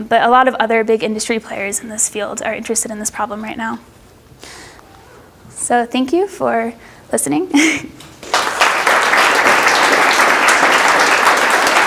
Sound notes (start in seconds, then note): 7.5 laughs; 8.1 audience applauds